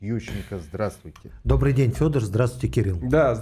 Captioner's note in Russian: откашливается